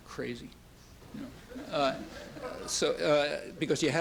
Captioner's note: laughter